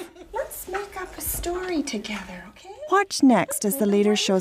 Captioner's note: voiceover